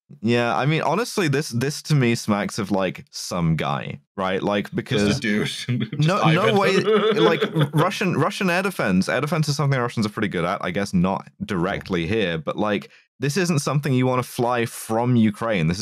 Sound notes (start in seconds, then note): 4.9 laughs